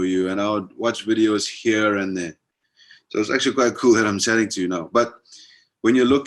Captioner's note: none